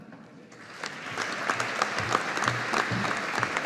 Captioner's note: audience applauding